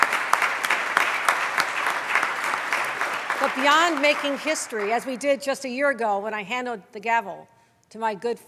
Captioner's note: applause